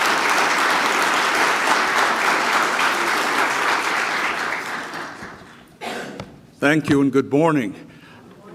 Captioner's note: applause